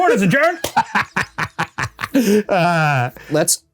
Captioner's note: Ryan laughing